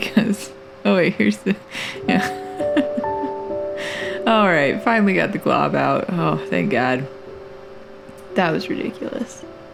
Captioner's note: laugh